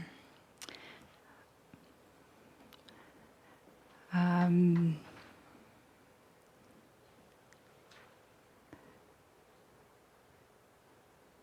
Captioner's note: long pause